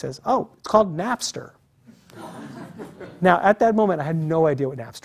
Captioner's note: laugh